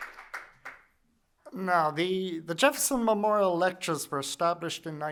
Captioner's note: applause